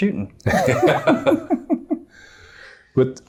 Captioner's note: laughing